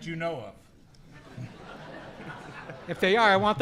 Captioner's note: audience laughing